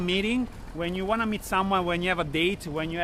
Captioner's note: none